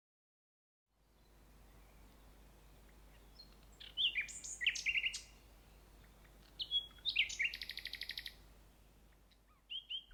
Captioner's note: bird songs